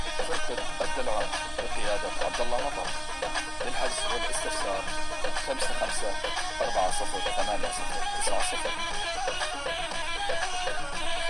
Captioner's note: speaking Arabic